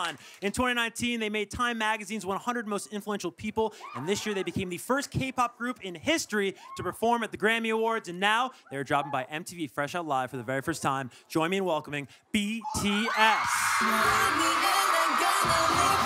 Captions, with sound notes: In 2019, they made Time Magazine's 100 most influential people. This year, they became the first k-pop group in history to perform at the Grammy awards and now, they're dropping by MTV "Fresh Out Live" for the very first time. Join me in welcoming BTS. (cheering)